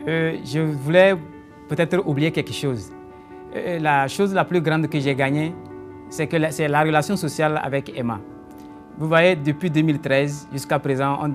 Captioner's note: speaking in French